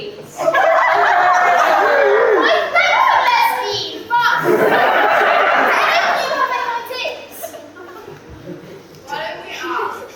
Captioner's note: audience laughs